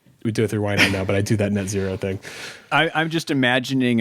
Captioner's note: chuckling